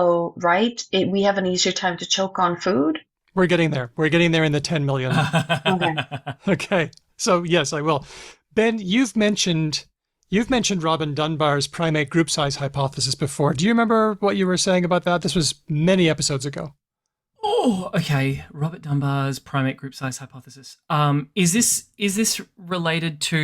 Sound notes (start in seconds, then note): 5.0 laughs